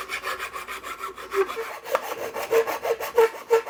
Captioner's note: file grinding